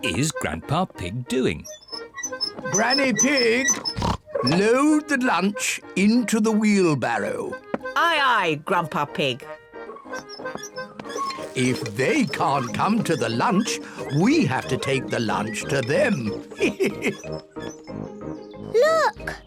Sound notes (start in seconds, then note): 15.6 laughs; 16.9 snorts